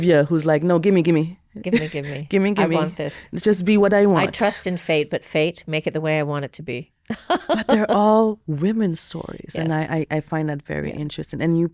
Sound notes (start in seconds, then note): 7.1 laughing